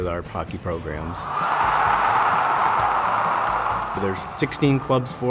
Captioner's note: crowd cheering